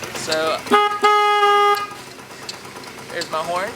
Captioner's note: horn honks